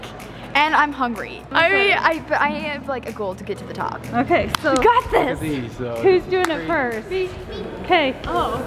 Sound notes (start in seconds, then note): 4.5 claps